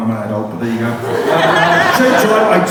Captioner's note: laughter